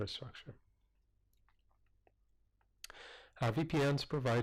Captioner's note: pause